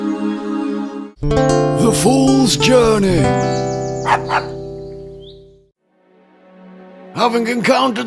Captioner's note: dog barks